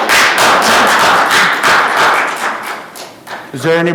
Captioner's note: clapping